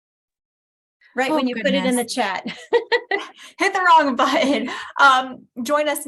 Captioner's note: laughter